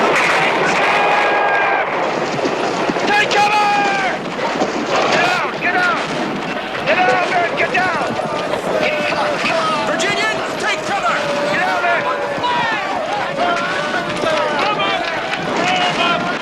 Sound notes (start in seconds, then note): 12.5 Aplausos